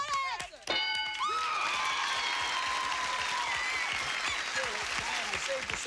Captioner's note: cheers and applause